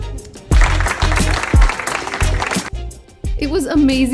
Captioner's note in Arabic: الجمهور يصفق